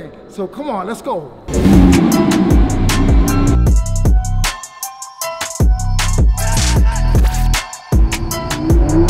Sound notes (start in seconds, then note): 1.4 SVJ Engine revving; 3.7 energetic bass music